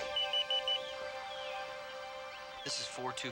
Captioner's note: phone beeping